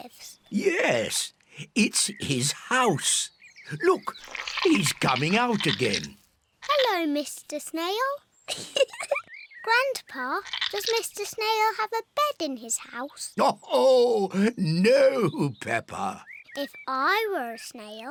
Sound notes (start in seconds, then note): 8.5 giggles; 13.4 laughs